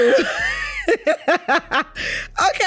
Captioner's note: both laughing